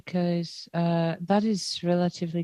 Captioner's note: speaking French